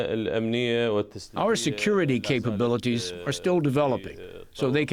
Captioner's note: through translator